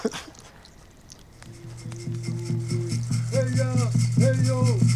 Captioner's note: laughs; chanting; drumming, rattling